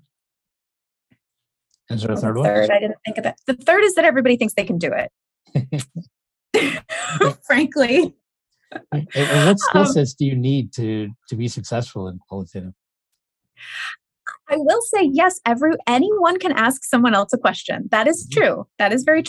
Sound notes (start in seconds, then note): 8.9 laughter